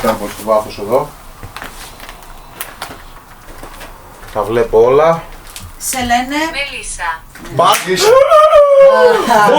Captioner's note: clap